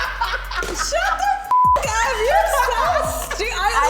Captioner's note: laughing; beep